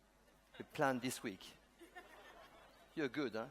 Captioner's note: laughter